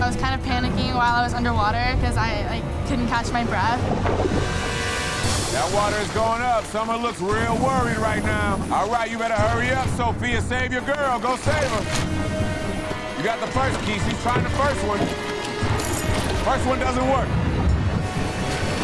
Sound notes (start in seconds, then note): 4.6 dramatic music; 4.6 water splashing; 11.6 hands clapping; 12.2 ominous music; 14.9 keys jingling; 18.6 dramatic music; 18.6 water gurgling